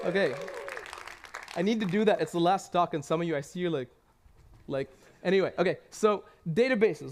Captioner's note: cheers and applause